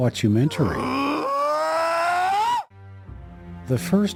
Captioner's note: creature grunts